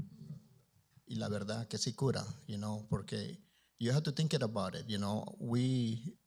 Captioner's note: Spanish language